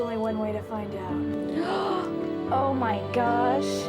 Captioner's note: gasping